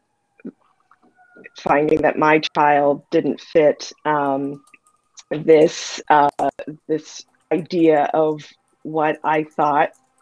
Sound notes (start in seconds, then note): none